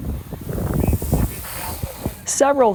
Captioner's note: water sprays; wind buffers camera